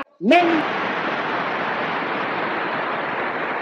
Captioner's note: clap